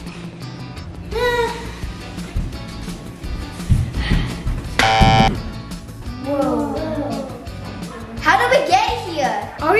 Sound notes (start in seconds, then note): 1.1 child groans; 4.8 button buzzing; 4.8 feet thudding